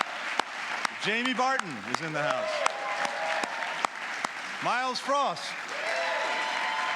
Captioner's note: applause